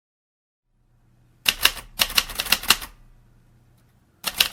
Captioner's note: keys clacking